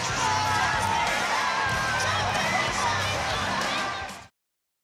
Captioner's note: audience cheering